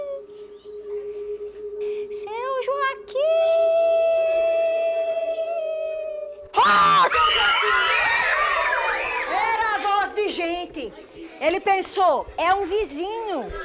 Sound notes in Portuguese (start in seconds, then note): 0.0 voz fina; 6.5 gritos de susto; 6.7 gritando